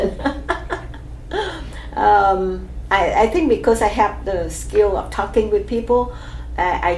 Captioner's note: laughs